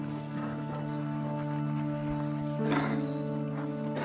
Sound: coughing

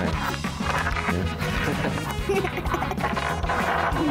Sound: laughter

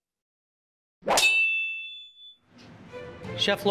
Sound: knives slicing; intense music

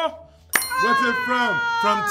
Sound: bell chimes

